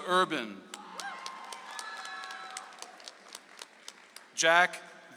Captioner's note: audience applauds